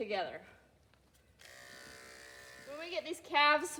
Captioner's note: clippers buzzing